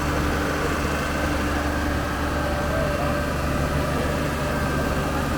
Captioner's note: engine roaring